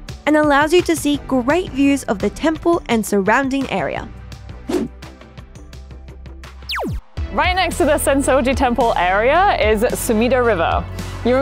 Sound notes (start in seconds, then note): 4.7 screen whooshing; 4.7 laser beeping